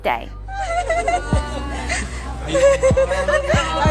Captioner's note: Sarah's mom cries